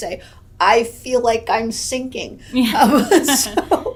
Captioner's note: laughs